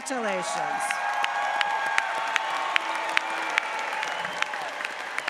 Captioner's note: audience cheers